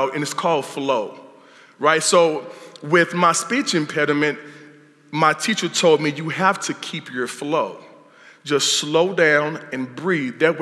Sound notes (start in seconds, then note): none